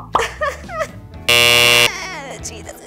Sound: laughs; buzzer sounds

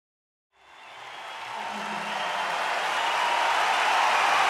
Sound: crowd cheering

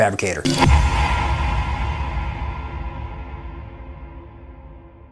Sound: crash of heavy metal

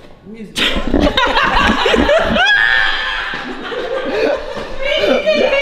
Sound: laughter

